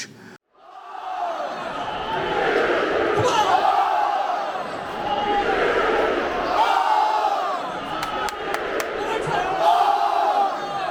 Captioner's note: chants & claps